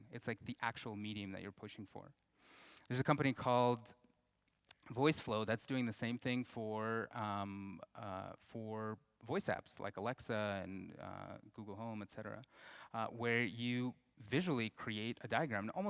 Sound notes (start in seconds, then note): none